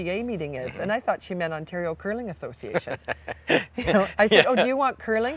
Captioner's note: laughing